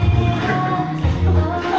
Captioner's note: hehehe